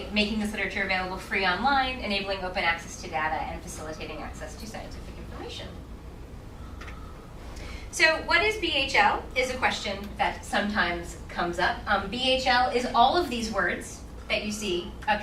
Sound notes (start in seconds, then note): none